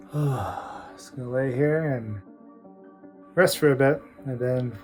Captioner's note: sighs